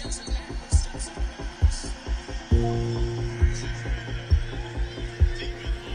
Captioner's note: sports announcer commentating